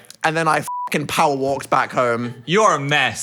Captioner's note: beep